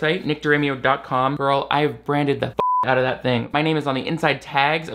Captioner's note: beep